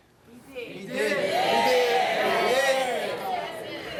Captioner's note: crowd chatter